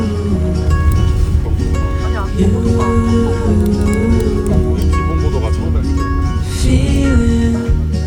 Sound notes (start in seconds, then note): 0.7 honk honk